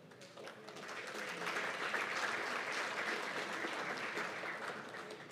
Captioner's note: applause